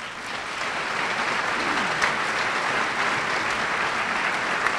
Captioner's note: applause